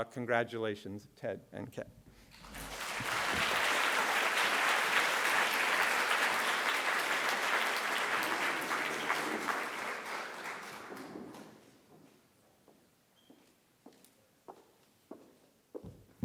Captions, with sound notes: congratulations, Ted and Ken. [APPLAUSE]